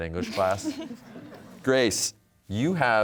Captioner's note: audience chuckling